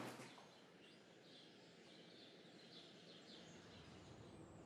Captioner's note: birds tweeting